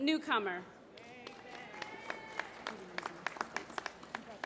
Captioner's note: applause